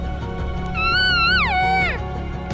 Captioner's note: caller cow calling